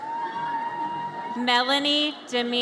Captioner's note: audience cheers